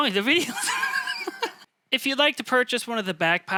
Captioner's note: laughing